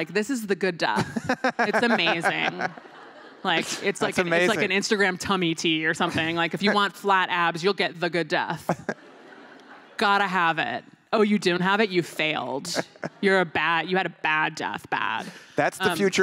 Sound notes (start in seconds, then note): 3.8 laughter